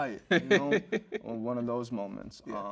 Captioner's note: host chuckles